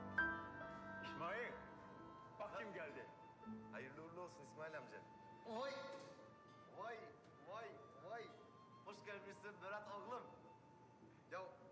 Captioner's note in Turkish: televi̇zyon sesleri̇